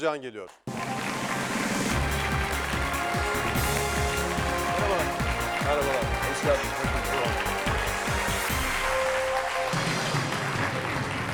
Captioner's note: applause